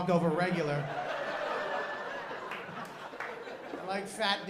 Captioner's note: laughter